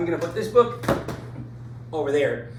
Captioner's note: book plops